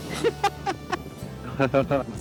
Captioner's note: laughs